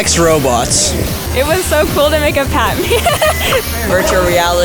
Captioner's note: laughs